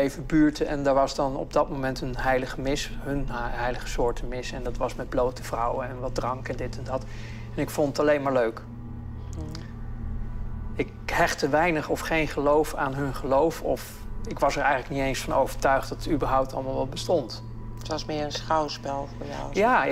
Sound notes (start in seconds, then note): 17.0 female interviewer speaking German